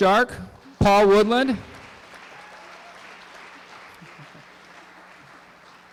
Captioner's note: applause